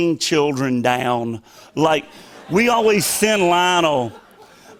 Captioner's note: laughter